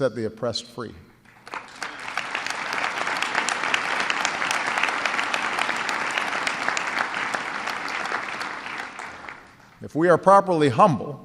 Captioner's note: applause